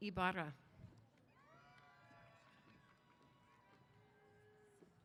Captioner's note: cheers